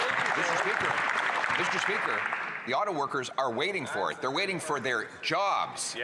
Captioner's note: some Applause